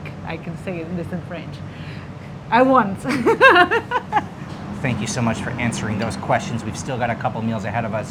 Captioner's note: laughing